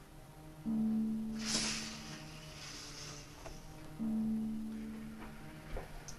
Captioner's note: Chemock sniffs deeply